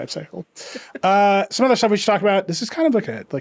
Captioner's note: laughing